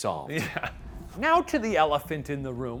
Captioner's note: laughs